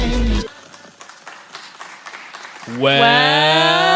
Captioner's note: applauding